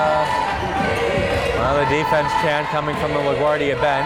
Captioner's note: crowd chanting defense